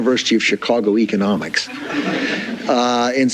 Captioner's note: men and women laughing